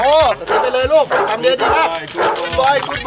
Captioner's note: barking